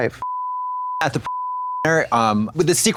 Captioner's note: beep